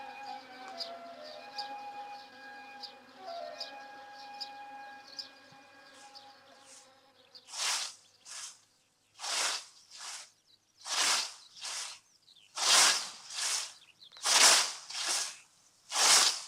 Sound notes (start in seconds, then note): 8.4 whoosh